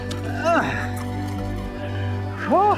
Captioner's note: sighing; groans